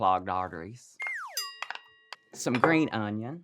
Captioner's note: bell dinging